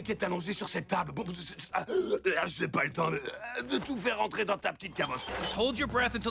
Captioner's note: burps